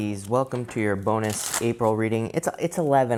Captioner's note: cards shuffling